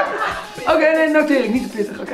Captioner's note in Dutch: lacht